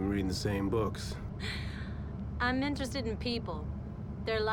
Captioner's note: laughs